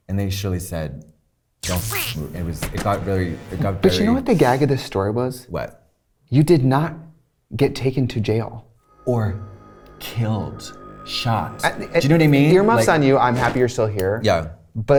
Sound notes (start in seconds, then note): 1.6 taser zapping; 8.8 ominous music